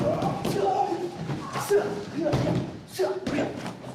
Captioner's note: grunting